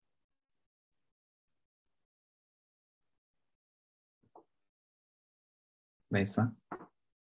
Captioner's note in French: silence